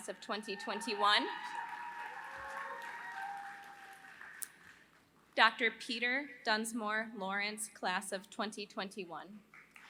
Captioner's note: applause; applause